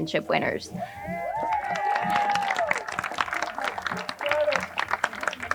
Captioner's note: crowd cheering and applauding